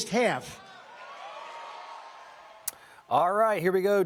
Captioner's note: audience cheering